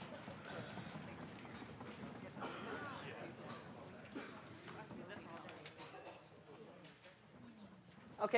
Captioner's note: general chatter